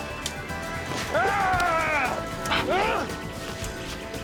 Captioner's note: snaps; crying out